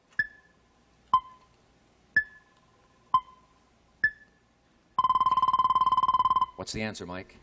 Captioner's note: timer dinging